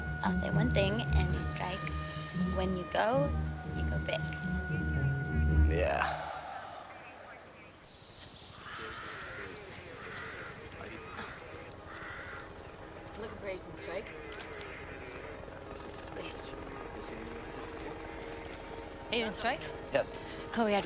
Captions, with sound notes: I'll say one thing, Andy Streich-- when you go, you go big. Yeah. (chattering) I'm looking for Agent Streich. (camera clicks) Thank you. - Agent Streich? - Yes?